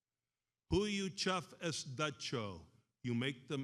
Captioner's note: speaks in foreign language